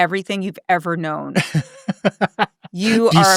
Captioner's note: laughing